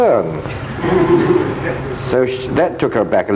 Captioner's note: audience laughing